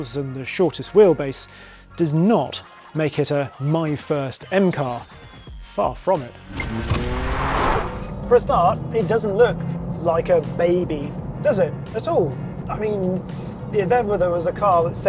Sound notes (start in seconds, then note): 6.4 vehicle revs; 6.5 upbeat music continues